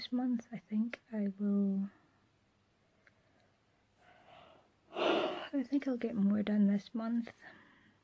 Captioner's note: yawns